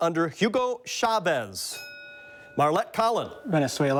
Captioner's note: bell dings